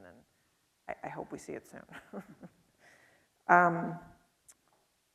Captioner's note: chuckles